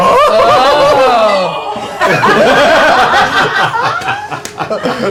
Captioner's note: laughter